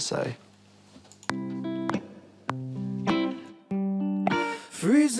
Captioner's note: mouse clicks